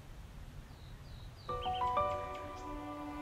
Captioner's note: birds Chirping